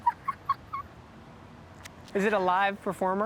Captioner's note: laughing